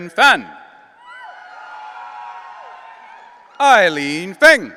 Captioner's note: audience cheering